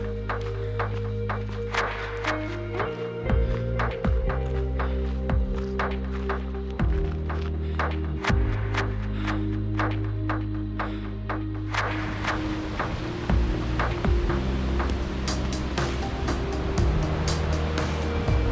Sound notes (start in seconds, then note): 12.0 water rushing